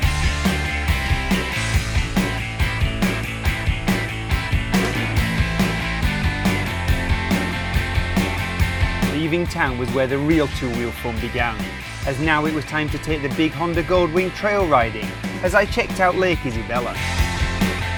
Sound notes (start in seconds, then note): 9.2 voiceover